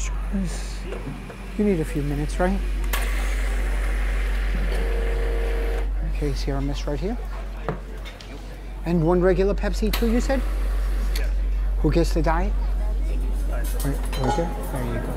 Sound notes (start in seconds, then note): 4.4 machine whirring